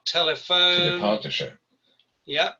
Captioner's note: non-english speech